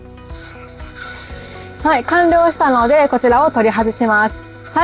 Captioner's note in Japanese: 鼻息